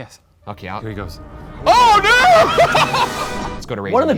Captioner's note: laughs